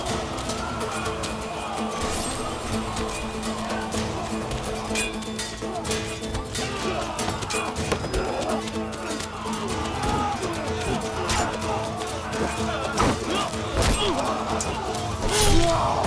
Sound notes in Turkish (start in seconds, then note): 0.8 Aksiyon müziği; 7.2 Kılıç sesleri; 12.9 Aksiyon müziği